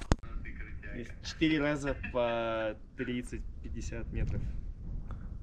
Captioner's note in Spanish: Russian speaking